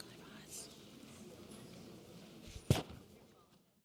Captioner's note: whispering